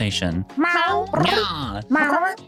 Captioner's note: meow